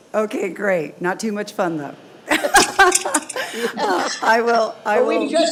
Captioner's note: laughs